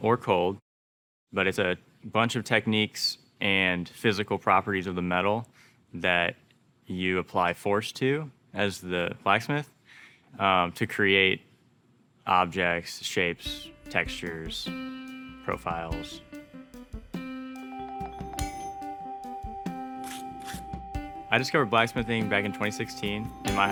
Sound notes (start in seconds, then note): 13.0 light music; 18.4 metal clinking; 20.0 tool scraping